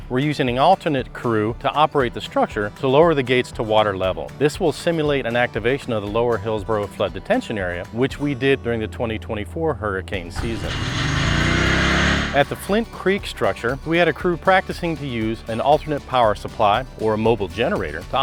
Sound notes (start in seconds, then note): 12.3 generator motor roaring